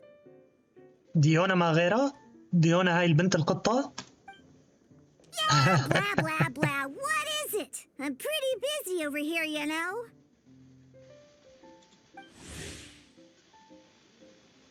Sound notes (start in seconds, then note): 12.3 swoosh